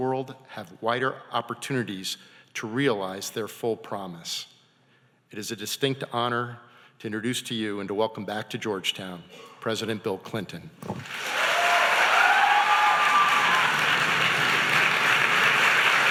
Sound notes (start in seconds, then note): 11.0 audience applauding